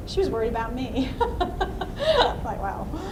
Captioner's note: laughs